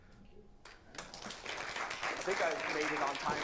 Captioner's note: applause